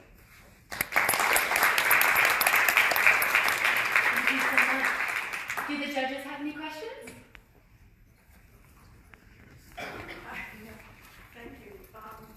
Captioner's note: applause